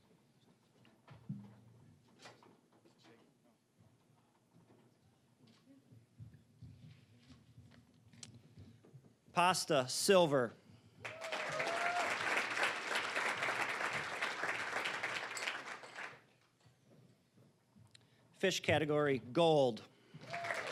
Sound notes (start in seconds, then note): 11.0 cheering, applause; 14.4 applause